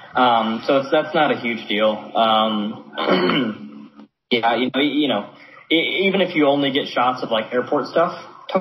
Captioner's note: clears throat